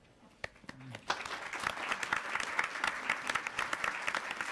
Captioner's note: applauding